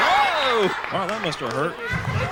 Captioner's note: audience laughing